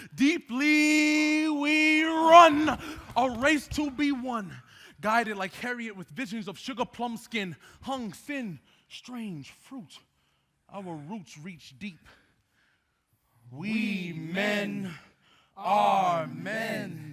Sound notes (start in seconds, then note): none